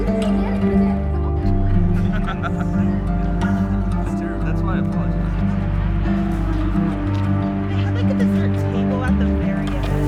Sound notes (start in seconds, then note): 1.8 laughing